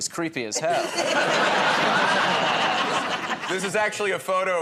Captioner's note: laughter